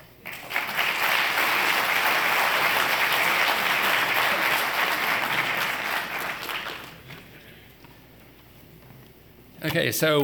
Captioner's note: applause